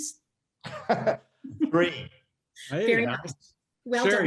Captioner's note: laughs